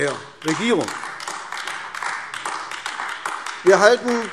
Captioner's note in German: Beifall AfD